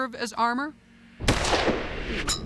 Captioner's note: gunshot